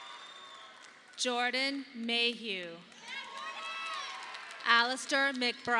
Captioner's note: audience applauding